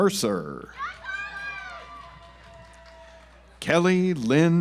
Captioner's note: audience applauds